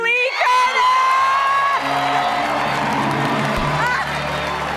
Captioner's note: audience cheers